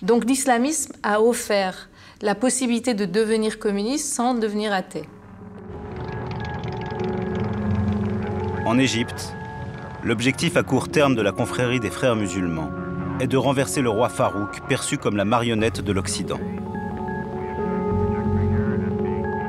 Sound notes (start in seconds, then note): 6.4 engine noise; 7.0 background music